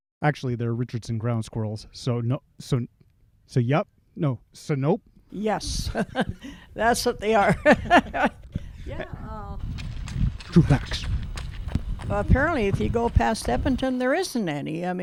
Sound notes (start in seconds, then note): 5.4 ha ha; 9.1 ha ha ha